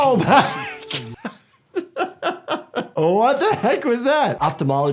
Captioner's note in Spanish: risas